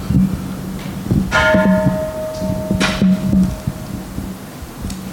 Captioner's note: Kansho ringing